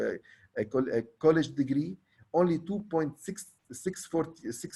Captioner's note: stammers